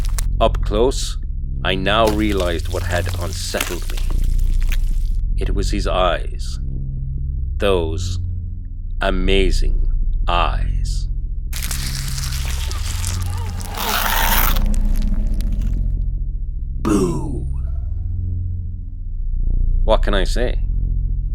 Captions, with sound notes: And up close I now realised what had unsettled me… It was his eyes!! Those… Amazing Eyes [Flesh Shifting / Bone Crunching] [Slight Baby Cries with Low Deep Roar to End] BOO!! What can I say…